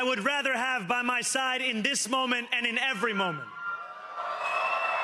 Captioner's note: cheering